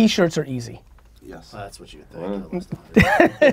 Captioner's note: pat; Gary laughs